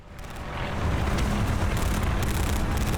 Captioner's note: fire crackling